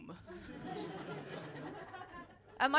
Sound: laughter

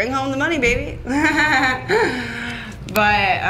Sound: laughs

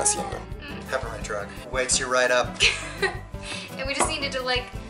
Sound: laughter

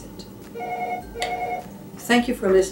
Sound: the phone is ringing

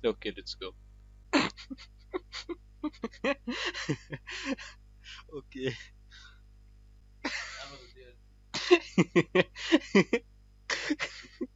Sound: endless laughter

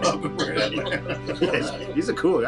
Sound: Eric mumbles, chuckles

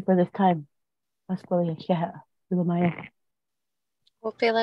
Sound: speaking native language

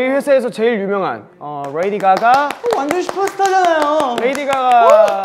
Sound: quick clapping

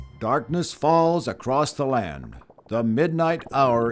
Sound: none

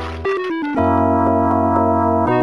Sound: splat!

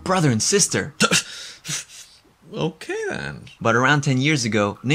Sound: gasps

